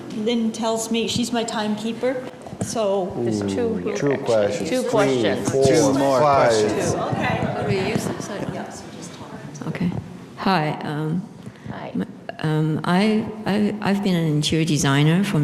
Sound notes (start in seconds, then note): 8.9 laughter